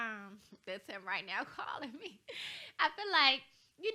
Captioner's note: chuckles